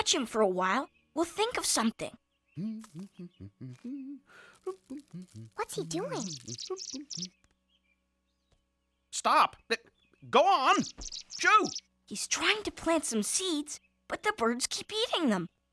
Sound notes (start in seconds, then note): 4.6 humming; 9.6 birds chirping